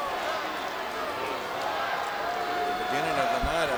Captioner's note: audience chanting